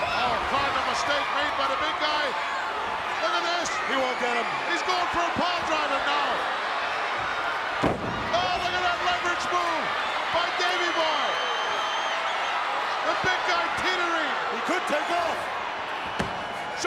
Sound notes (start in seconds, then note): 11.5 crowd cheering